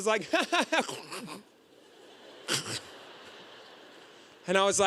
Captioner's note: choking noises